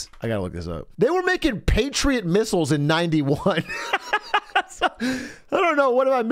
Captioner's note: laughs